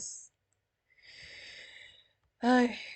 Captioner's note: inhale